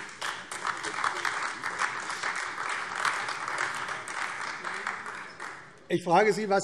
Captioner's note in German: Beifall AfD